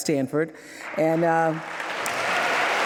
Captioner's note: applause